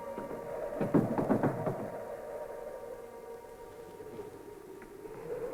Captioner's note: wind howling